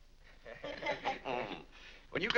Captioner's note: family laughs